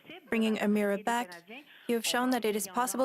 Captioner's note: speaking French